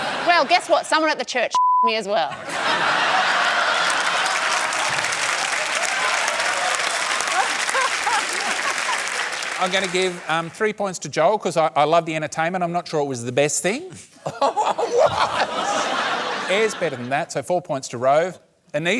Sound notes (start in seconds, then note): 2.4 laughter, applause